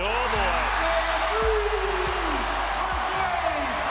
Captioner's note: crowd cheers